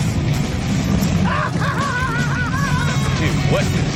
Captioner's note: laughs